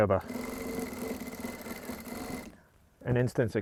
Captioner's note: sewing machine whirring